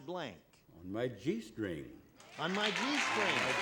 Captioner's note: applause